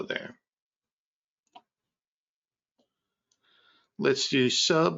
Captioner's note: mouse clicking